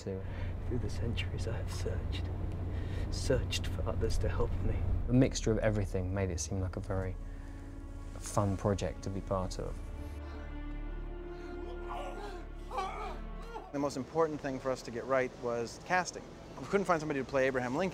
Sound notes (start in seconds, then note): 11.3 both groaning